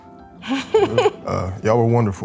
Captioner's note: laughing